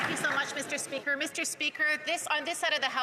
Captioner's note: applause